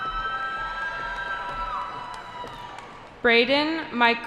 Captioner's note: cheering